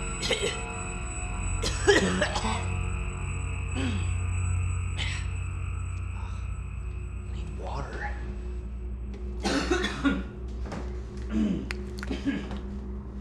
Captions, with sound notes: [coughs] [coughs more severely] [clears throat] - I need water. [boyfriend coughs]